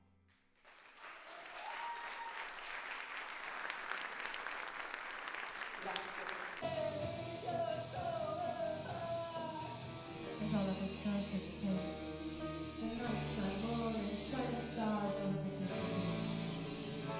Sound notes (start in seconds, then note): 0.5 applause